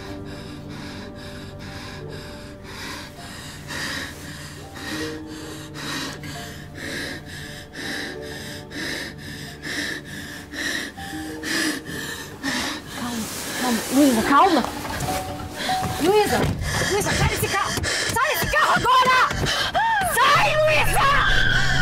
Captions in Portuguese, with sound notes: (RESPIRAÇÃO OFEGANTE) (RESPIRAÇÃO OFEGANTE) Calma, calma, calma. Luiza, calma! Luiza! Luiza, sai desse carro! Sai desse carro agora! Sai, Luiza!